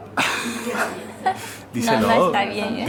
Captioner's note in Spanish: se ríen los dos